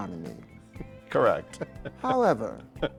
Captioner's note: chuckling